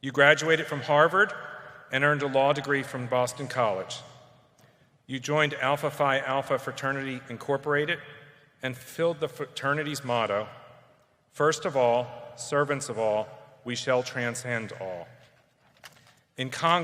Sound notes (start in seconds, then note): none